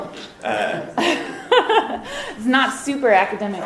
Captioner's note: laughs